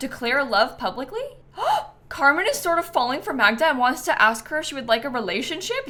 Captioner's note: gasps